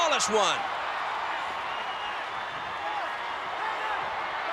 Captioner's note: crowd screaming